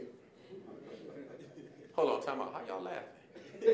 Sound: audience laughing

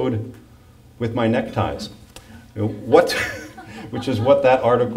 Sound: laughs

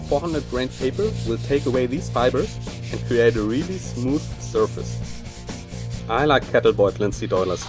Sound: grinding

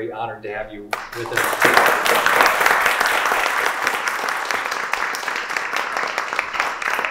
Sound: audience applauding

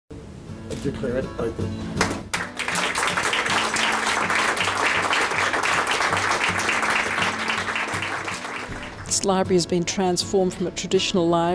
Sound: clapping

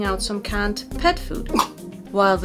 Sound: cough

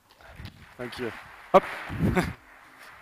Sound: audience clapping

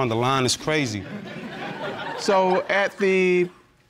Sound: audience laughing

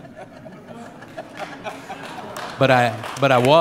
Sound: laughter; applause

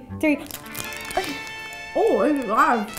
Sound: giggles

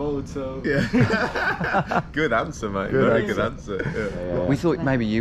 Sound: laughs

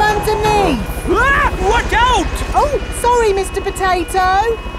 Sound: screams

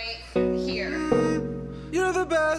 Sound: hums

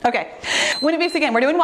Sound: timer beeps

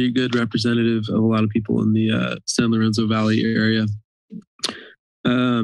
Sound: breathes

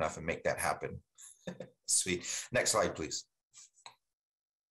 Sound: chuckles

